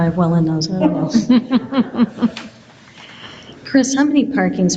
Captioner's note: board chuckles